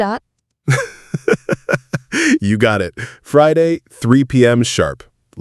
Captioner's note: laughs